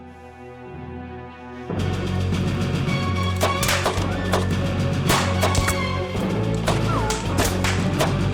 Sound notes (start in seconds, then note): 2.3 gunshots